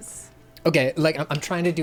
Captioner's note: pat